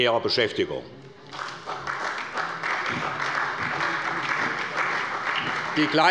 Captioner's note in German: Beifall bei der SPD